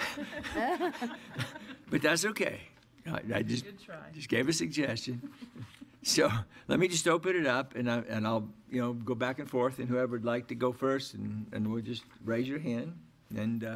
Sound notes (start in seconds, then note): 0.0 laughter